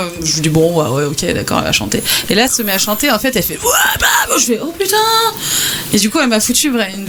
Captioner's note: screaming